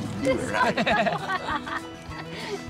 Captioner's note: laughter